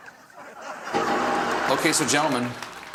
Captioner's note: laughter